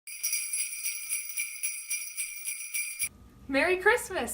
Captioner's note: bells jingling